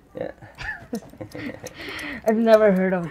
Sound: laughs

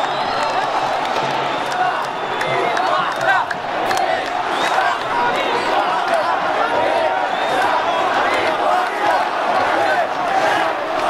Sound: chants

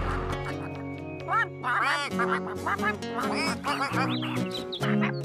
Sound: ducks Quacking

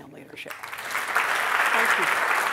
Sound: applause

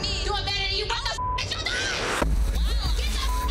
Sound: beep

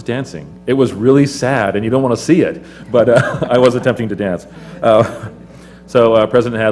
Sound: laugh

